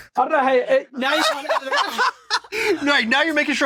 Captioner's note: cracking up